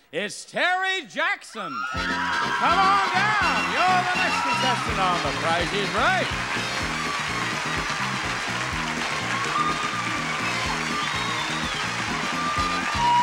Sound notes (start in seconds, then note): 2.1 audience cheering; 7.1 audience applauding; 7.1 jovial jazz music